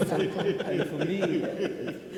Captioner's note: people laugh